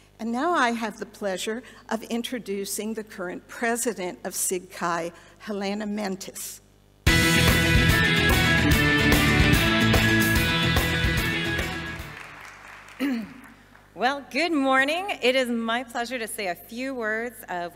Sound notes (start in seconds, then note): 7.0 upbeat music; 12.3 audience applauding